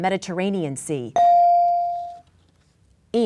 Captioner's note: bell dinging